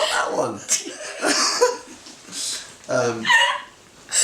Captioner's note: laughter